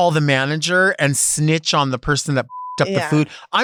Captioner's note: beep